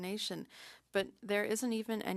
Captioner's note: speaking French